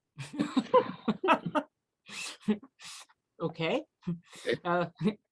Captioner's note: laughs